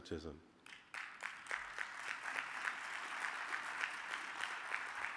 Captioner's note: audience applauding